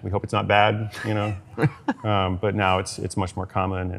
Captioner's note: laughs